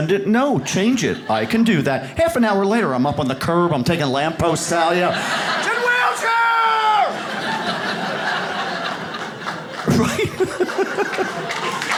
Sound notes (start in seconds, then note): 4.3 audience laughs; 11.4 audience claps